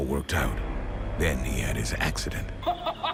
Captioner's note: Penguin laughing